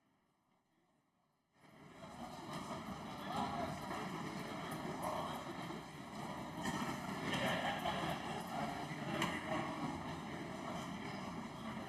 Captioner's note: speaking French